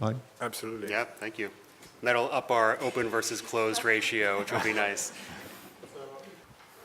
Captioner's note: laughter